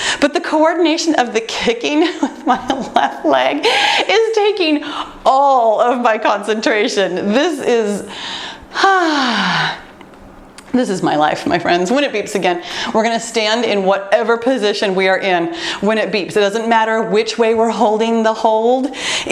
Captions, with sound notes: but the coordination of the kicking [laughs] with my left leg is taking all of my concentration. This is [exhaling] my life, my friends. When it beeps again, we’re going to stand in whatever position we are in. When it beeps. It doesn’t matter which way we’re holding the hold.